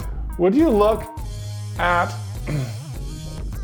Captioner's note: clears throat